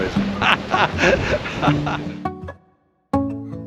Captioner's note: laughs